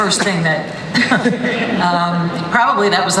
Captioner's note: laughter